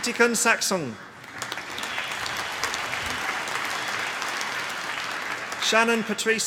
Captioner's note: applause